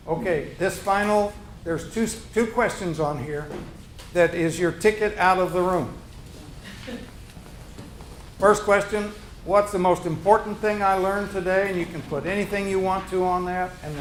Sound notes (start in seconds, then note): 6.5 groups chuckles; 7.7 room shuffling